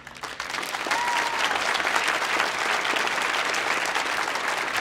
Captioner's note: audience applauding